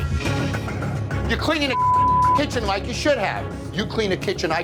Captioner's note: beep